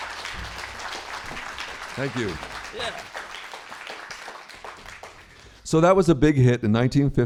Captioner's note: applause